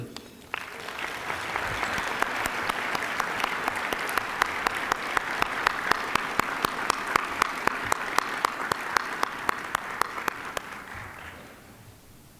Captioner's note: applause